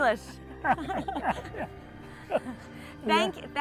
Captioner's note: both laugh